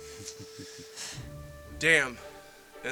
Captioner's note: chuckling